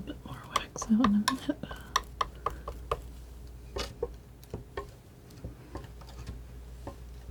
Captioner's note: tapping